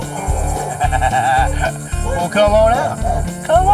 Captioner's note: laughing